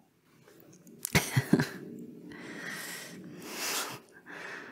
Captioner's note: chuckle